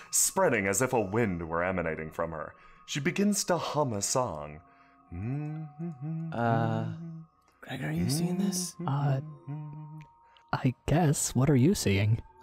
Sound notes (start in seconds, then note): 5.1 Astra hums; 7.8 whispering